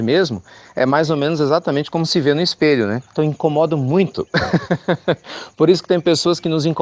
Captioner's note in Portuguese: Risos